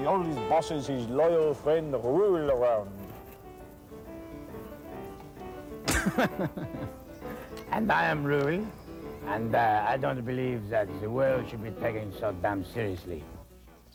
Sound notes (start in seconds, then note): 5.6 chuckling